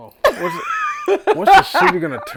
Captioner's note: laughing